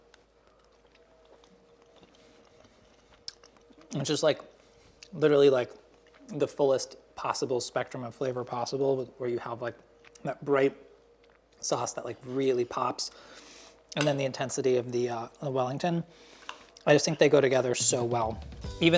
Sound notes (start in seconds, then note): 2.0 chews